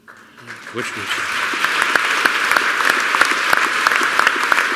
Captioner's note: applause